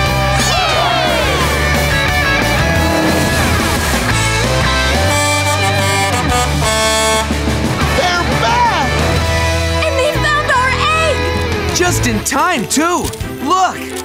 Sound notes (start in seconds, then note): 4.5 honking